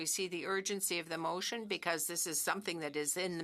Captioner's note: speaking French